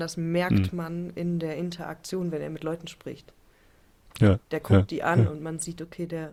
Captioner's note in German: räuspern